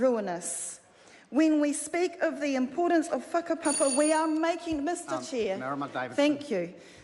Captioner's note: bell Rings